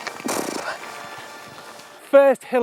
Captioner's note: blows hard